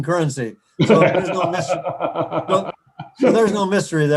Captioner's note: laughing